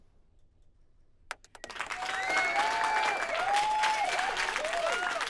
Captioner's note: audience applauds